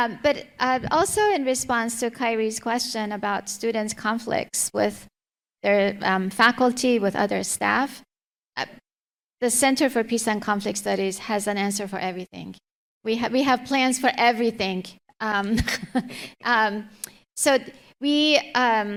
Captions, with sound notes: Also in response to Kyrie's question about students' conflicts with their faculty, with other staff, the Center for Peace and Conflict Studies has an answer for everything. We have plans for everything. (laughs)